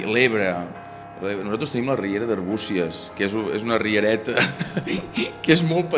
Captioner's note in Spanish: ríe